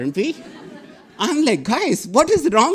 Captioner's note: audience laughing